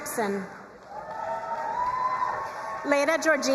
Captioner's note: crowd cheering and applauding